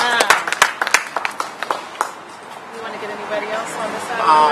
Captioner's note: applause